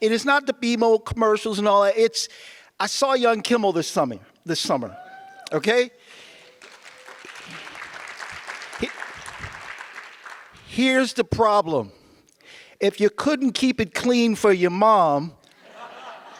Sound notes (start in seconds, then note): 6.2 audience applause; 15.6 audience laughs